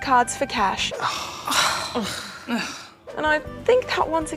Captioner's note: all sigh